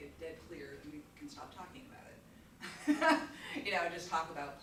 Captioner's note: chuckles